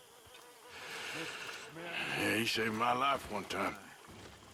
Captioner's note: sighs